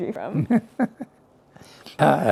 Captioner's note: laughs